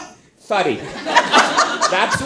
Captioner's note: all laugh